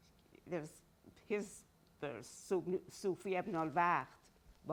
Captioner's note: speaking in Farsi